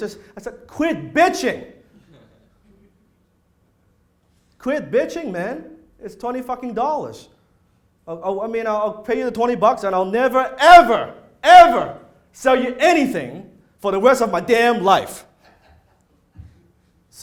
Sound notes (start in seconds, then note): 2.0 audience laughs